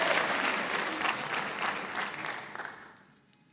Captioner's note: applause